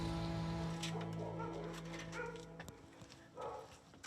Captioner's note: dogs barking